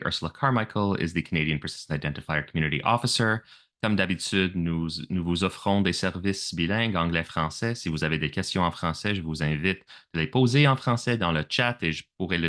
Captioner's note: speaking French